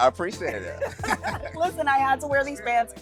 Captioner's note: laughing